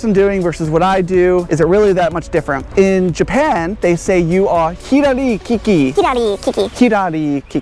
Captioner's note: foreign language 00:04:13